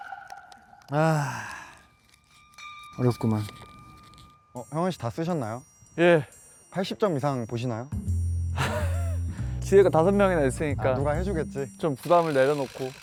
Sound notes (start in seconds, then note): 0.9 sigh